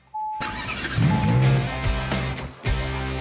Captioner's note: car beeping; engine firing; rock music